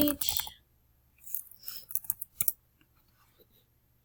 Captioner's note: clicks